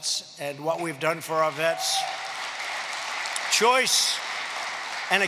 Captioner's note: applause